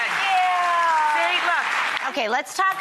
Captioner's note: applause